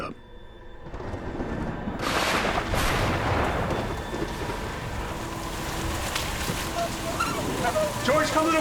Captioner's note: heavy thunderstorm